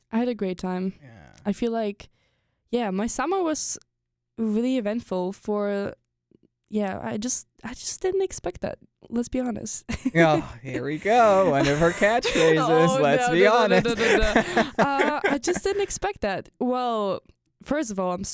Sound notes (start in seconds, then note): 13.7 both laugh